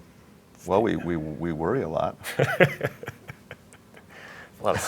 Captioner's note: laughing